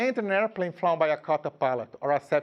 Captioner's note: speaking in a foreign language